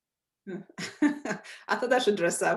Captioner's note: laughs